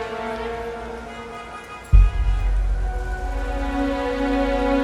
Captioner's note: horns honking